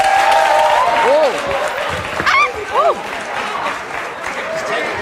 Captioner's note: audience applauds